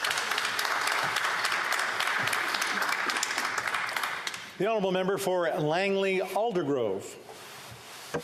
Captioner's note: applause